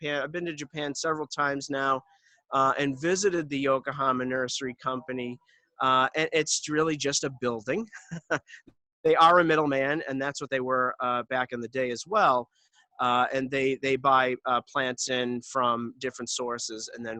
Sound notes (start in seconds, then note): 7.8 chuckles